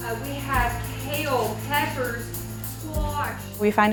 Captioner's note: background talking